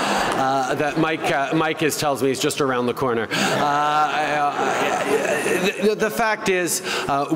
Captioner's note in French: Rires